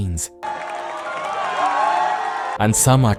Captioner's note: cheering